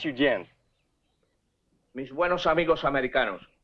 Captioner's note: General Tostada speaking in Spanish